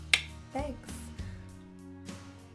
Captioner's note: clicks tongue